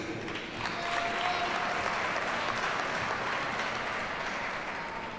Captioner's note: audience cheers and applauds